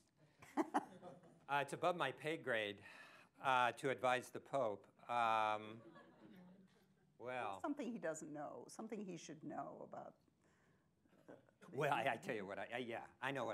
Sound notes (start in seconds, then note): 0.5 laughs; 5.4 laughter